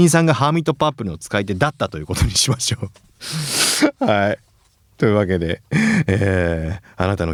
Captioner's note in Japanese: 咳払い